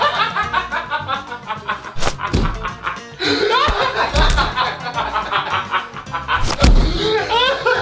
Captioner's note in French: Fou rire